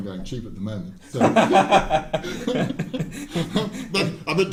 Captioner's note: laughing